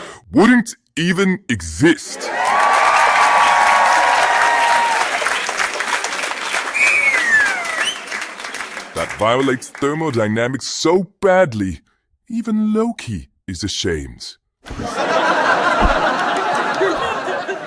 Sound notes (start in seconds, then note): 2.1 audience cheering; 14.6 audience laughing